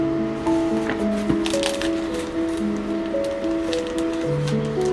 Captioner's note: calming piano music; pages turning